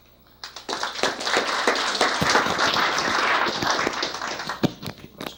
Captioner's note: applause